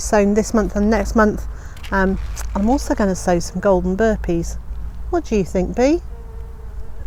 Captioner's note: bee buzzes